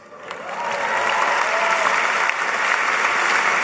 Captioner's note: applause